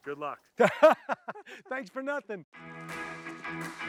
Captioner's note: laughter